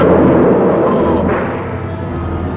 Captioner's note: storm rumbling; tense music plays